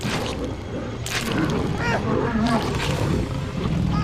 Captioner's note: growling